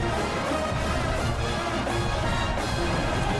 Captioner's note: crowd Noises